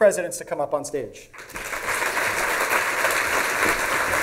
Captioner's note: applause